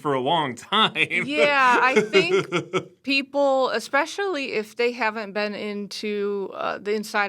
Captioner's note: chuckles